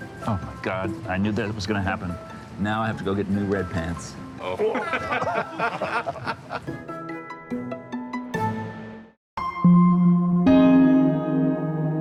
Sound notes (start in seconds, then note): 4.5 everyone laughing; 6.5 playful music; 9.4 light music